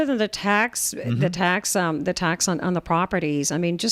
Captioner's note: Hablando ingl\s